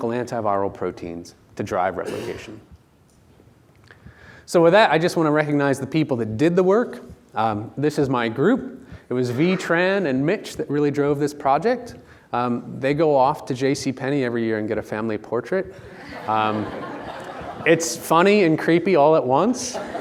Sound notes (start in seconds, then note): 15.9 audience laughing